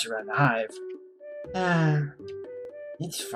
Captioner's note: sighs